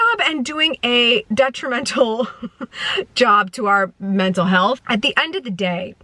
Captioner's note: laughs